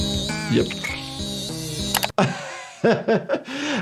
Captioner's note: doctor laughs